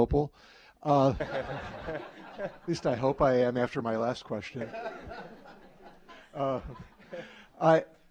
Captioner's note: audience laughter; audience laughter